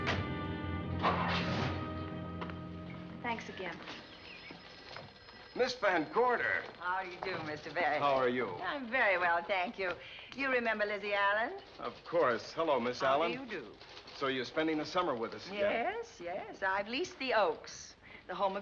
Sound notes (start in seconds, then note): 1.2 engine rumbling